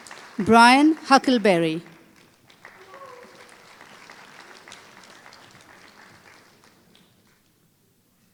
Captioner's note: applause